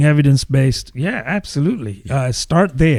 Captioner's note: uh